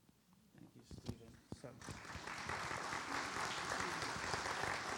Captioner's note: audience applauds